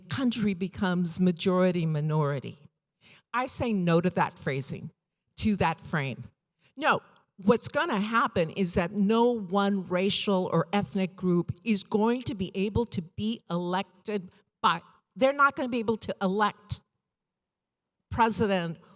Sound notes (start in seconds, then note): none